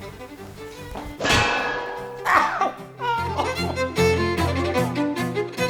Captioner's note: crash followed by weeping